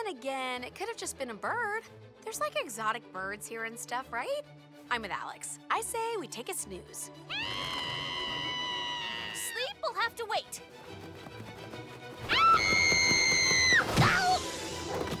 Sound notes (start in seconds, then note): 5.5 mandy screams; 10.4 screaming